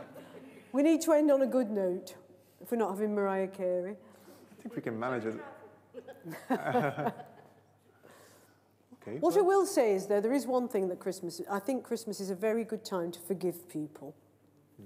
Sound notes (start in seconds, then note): 5.9 laughter